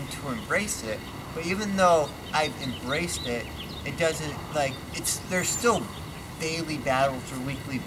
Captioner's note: birds chirping